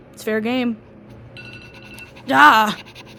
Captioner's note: muffled default iphone alarm noise